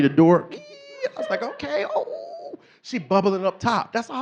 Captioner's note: squeals